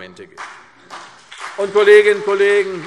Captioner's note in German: Beifall CDU und BÜNDNIS 90/DIE GRÜNEN